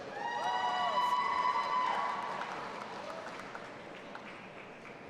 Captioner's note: audience applauding and cheering